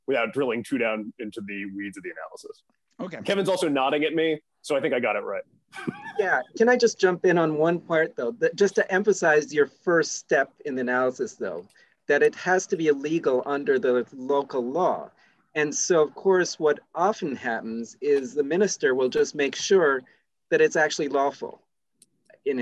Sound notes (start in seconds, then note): 5.7 laugh